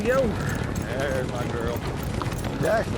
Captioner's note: galloping horses